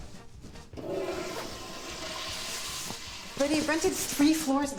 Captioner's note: toilet flushes